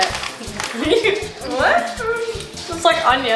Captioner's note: girls giggling